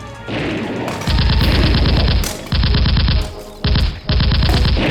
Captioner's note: gunfire rattling